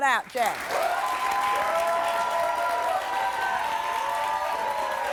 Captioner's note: audience applauds